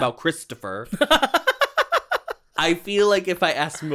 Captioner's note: giggles